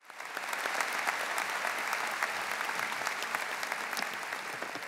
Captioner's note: audience applauding